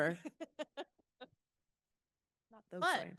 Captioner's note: laughing